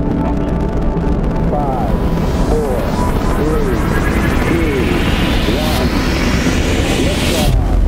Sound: radio voice 2

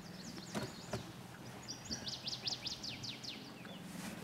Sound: birds chirping

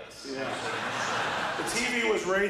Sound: audience laughs

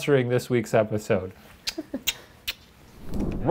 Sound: blowing kisses

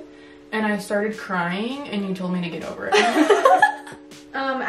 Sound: both laugh

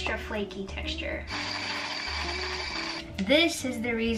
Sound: mixer whirring

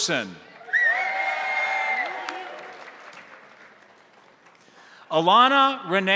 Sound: crowd applauding; crowd cheering

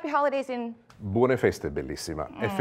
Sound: spanish phrase

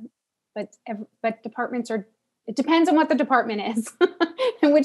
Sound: laugh

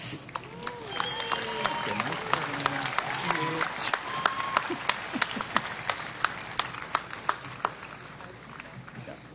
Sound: applause

